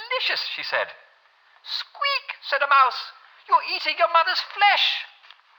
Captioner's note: mouse voice